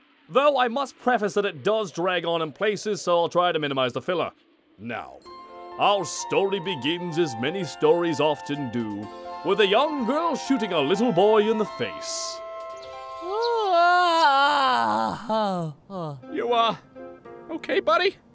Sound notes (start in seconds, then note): 5.1 whimsical music; 13.1 yawning